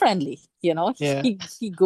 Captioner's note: laughs